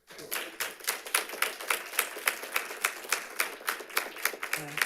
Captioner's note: audience applauding